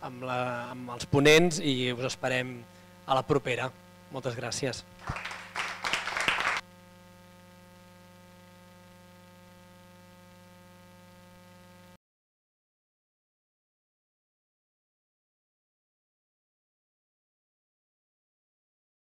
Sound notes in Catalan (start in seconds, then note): 5.0 Aplaudiment